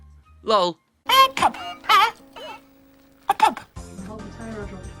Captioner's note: children's character makes nonesense noise